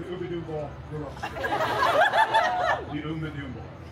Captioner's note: guests laughing